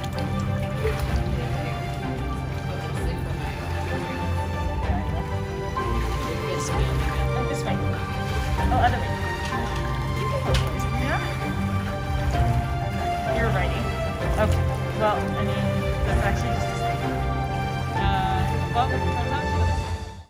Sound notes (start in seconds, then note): 0.1 background chatter; 0.1 background music; 0.1 water splashing sounds; 7.2 background music; 7.2 water splashing sounds; 9.2 background music; 9.2 water splashing sounds; 13.4 background music; 13.4 water splashing sounds; 17.0 background music; 17.0 water splashing sounds